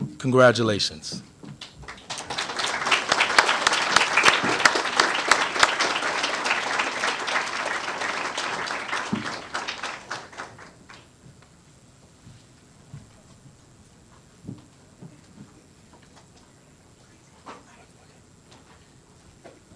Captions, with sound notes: Congratulations. [APPLAUSE]